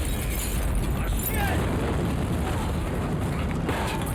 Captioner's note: glass shatters and pipe bomb explodes; John screams